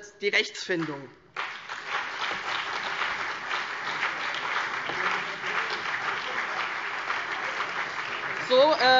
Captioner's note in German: Beifall CDU, BÜNDNIS 90/DIE GRÜNEN, vereinzelt SPD und DIE LINKE - Zuruf AfD